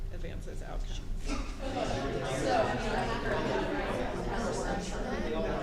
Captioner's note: people talking